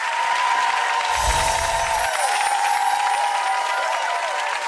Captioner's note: audience cheering